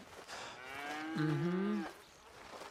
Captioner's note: Jack grunts in agreement